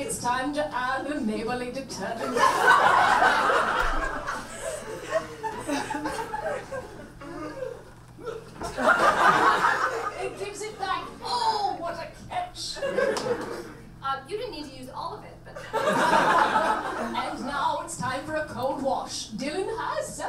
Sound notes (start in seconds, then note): 3.8 audience laughs